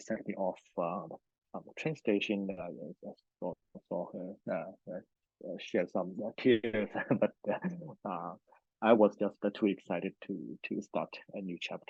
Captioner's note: laughs